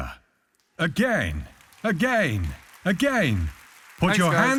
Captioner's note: audience applauding